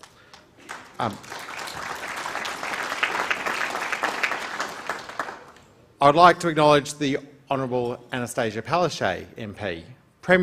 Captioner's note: applause